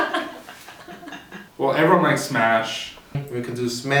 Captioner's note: uncontrollable laughing